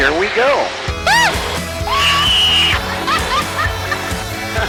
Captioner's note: screams and Laughs